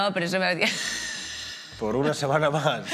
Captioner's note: she laughs